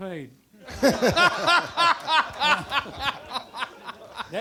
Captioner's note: audience laughter